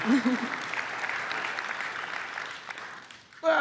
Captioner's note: applause